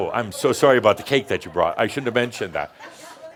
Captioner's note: some laughter